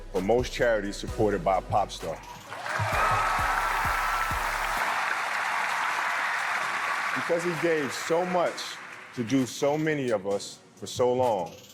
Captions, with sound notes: for most charities supported by a pop star. (applause) Because he gave so much to do so many of us for so long,